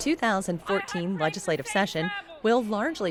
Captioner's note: cheers